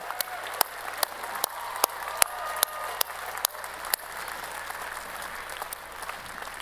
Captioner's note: applause